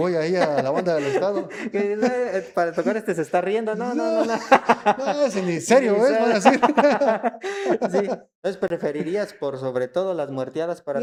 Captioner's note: he's laughing